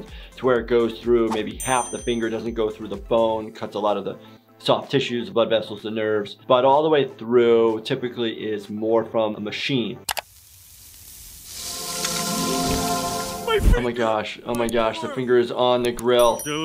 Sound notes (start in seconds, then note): 10.1 finger sizzling; 11.5 soft music